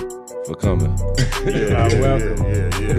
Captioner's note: men laughing